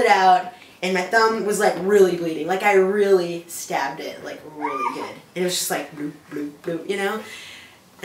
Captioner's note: dripping